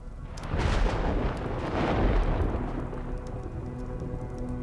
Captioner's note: tense music; thunder cracking